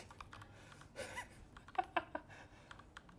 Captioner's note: laughs